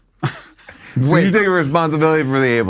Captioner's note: laughs